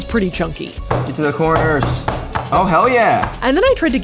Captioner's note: smacking container